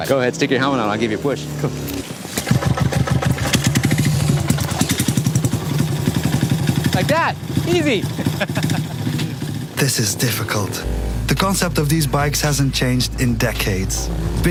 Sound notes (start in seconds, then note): 1.6 motorcycle engine starting; 8.0 laughing